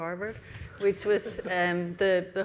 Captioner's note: laughs